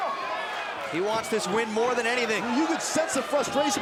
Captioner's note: crowd chatter